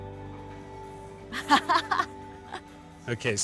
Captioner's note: Keely laughs